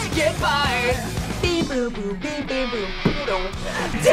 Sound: imitates guitar

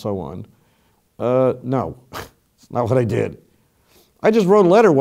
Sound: laugh

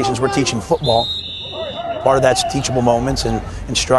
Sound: whistle blows, yelling

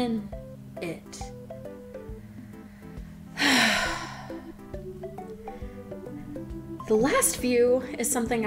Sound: heavy sigh

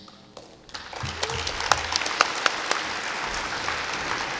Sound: audience applauding

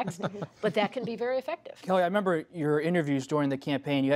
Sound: laughter

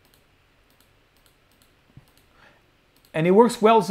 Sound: clicking

